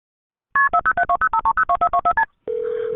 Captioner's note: dialtone